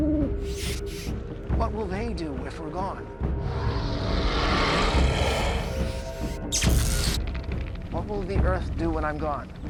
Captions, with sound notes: [owl coos] What will they do if we're gone? [growls] [buzzing and crackling] What will the Earth do when I'm gone?